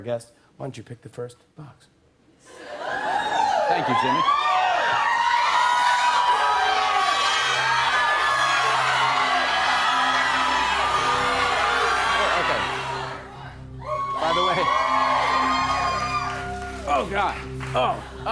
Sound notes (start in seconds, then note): 2.4 cheering; 5.1 cheering continues; 7.4 audience shouting; 13.7 cheers and applause